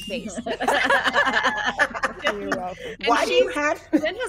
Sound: person laughing

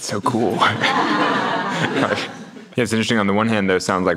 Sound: audience laughs

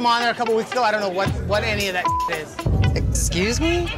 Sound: beep

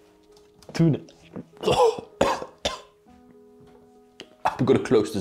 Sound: almost chokes

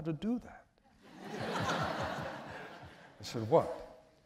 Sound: laughter

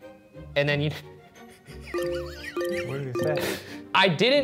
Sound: laughing

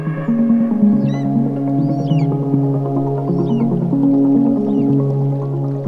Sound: eagle calls

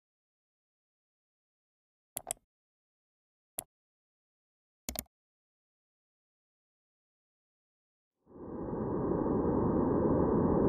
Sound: white noise

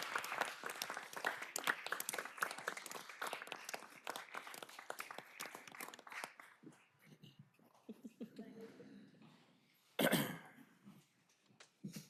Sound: applause

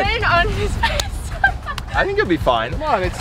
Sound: laughs

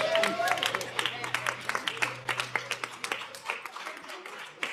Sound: audience applauds

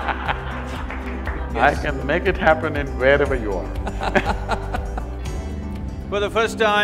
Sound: Sadhguru and audience laugh; Arnab Goswami laughs

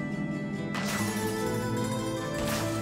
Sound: gunfire

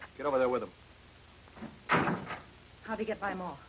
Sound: door closes

